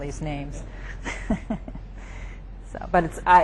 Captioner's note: giggles